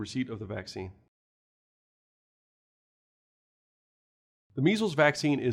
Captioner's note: no audio